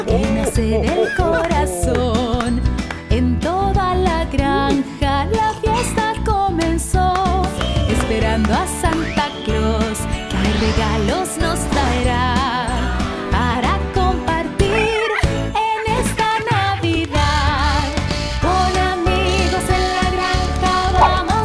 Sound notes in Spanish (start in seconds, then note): 6.5 Palmas; 14.7 Sonido de cotorras